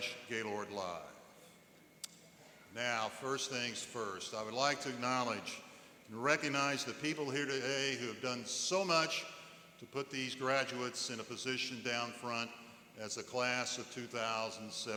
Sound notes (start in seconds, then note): none